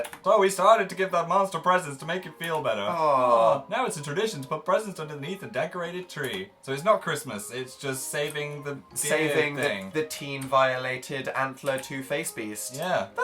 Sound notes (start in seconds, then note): none